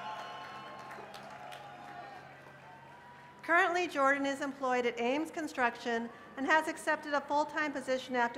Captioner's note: cheers and applause